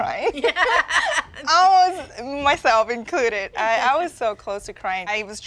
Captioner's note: laughter